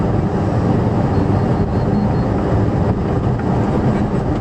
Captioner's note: air conditioner blower on "high", engine sounds